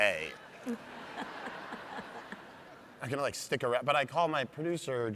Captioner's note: audience laughs